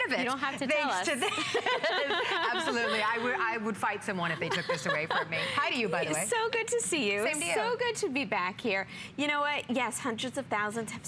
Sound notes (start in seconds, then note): 4.4 laughter